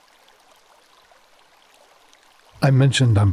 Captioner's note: water running